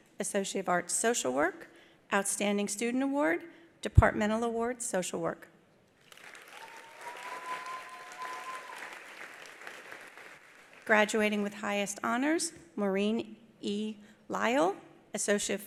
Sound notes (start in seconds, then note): 6.0 attendees applauding; 6.5 attendee cheering